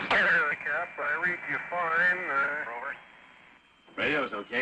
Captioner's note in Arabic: أصوات راديو مكتومة